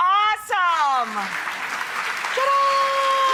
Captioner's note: applause